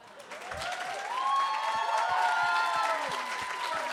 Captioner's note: applause